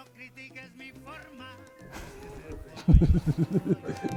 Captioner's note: upbeat music; chuckles